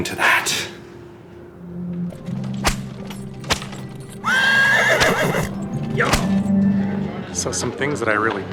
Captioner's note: SFX: Whipping and horse neighing